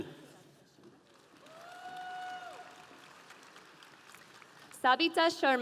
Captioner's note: audience applauding